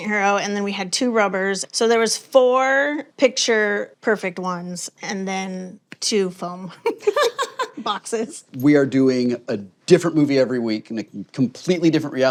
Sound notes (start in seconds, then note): 6.8 laughs; 6.8 chuckles